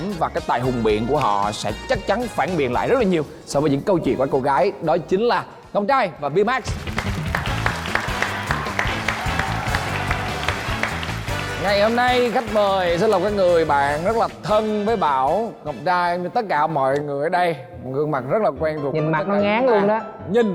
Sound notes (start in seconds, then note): 6.6 applause